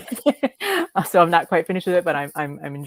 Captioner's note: speakers laughing